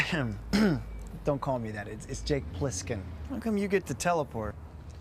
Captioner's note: clears throat